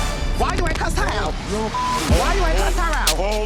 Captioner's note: mumbling; continues mumbling